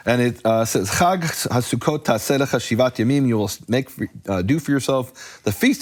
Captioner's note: speaking foreign language